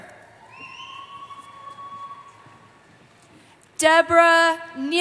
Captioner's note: cheering